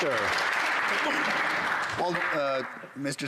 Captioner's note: some Applause